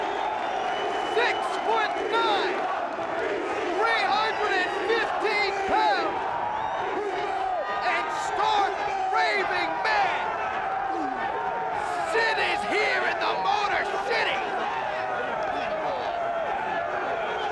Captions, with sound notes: 6'9! (crowd chants "ECW") 315 pounds! Who's the man? And stark raving mad! Sid is here in The Motor City!